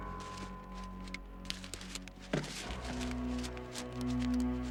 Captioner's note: yelling